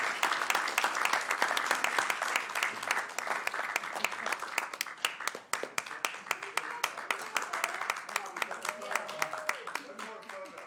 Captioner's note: applause